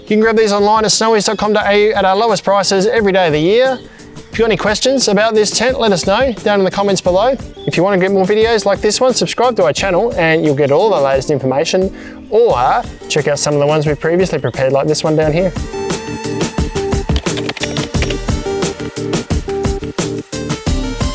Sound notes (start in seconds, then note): 16.3 upbeat music; 17.0 clicking; 18.5 upbeat music